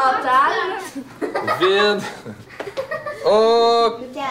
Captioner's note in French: ricanement